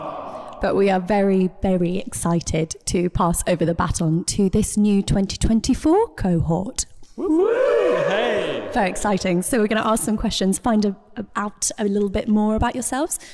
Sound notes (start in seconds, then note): 0.0 big ‘awwwww’ from offscreen; 7.2 all cheer